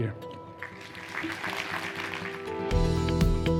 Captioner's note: applause